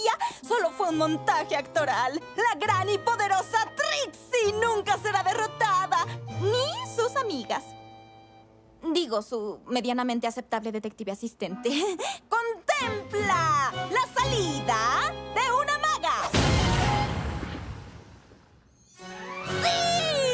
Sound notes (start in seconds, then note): 16.2 explosion